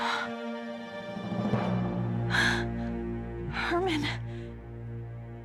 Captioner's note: gasp